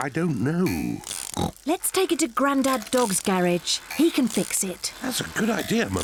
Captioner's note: oinks; oinks